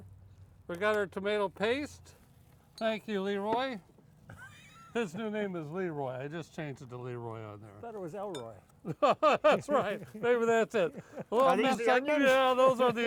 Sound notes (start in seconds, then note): 4.3 laughing; 8.8 laughing